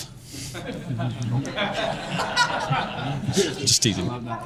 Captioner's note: audience laughing